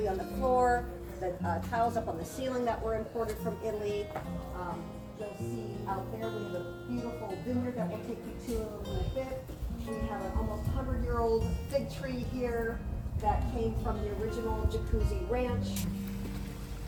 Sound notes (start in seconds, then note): none